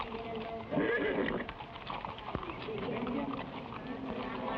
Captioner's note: horse neighs